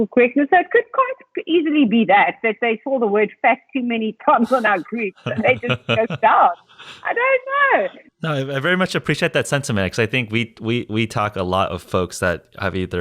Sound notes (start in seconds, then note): 4.4 laughing